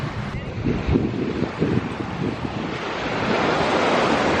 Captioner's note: waves crashing